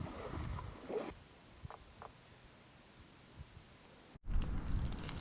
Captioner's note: water splashing